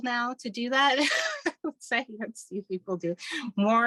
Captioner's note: laughing